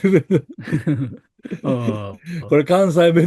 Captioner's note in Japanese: 笑い